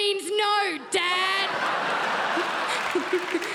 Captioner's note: crowd laughs